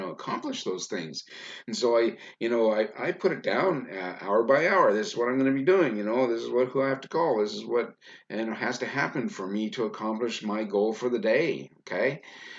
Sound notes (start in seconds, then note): none